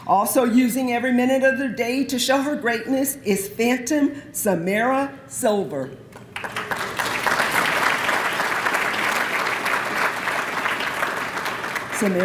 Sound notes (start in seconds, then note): 6.2 applause